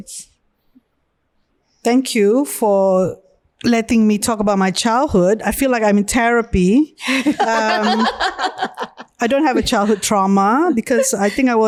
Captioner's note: podcasters laugh